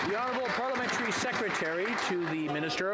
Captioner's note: some Applause